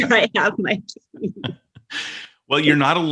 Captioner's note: laughs